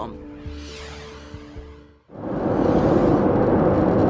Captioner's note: screen whooshing